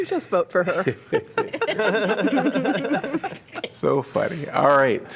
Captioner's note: laughter